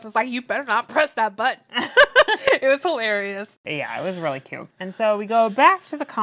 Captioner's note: laughs